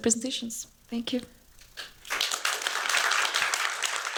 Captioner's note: applause